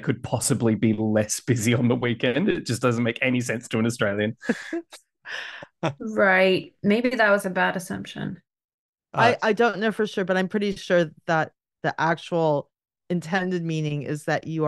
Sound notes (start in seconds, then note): 5.7 laughs